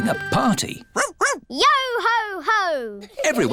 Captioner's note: barks